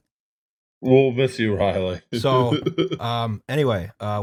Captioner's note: laughter